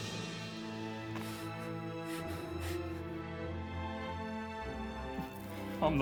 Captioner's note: Dale grunting in pain